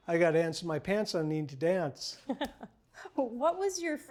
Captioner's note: laughs